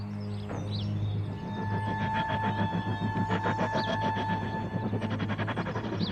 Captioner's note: strained whooshing